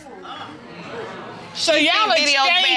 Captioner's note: crowd reacting